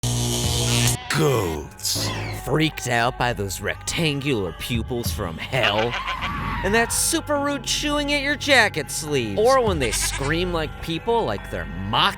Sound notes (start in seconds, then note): 5.8 screams